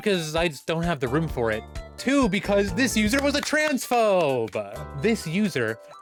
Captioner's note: sarcastic clapping